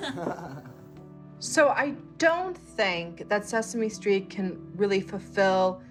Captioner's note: laughter